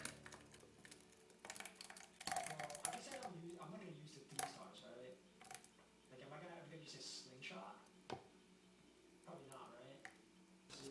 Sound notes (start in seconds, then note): 2.0 ASMR sound effects